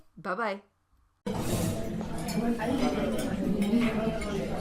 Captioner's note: people chattering